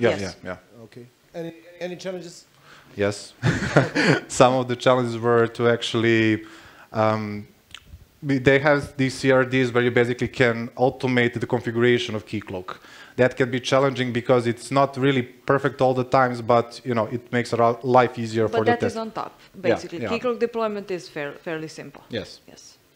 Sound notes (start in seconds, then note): 3.4 laughs